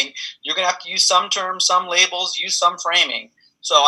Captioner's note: laughs